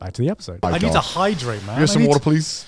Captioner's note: sound of water splashing